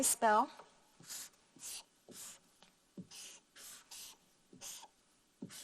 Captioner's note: marker scribbling